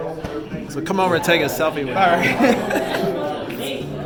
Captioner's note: laughing